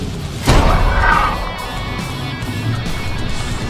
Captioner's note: gun fires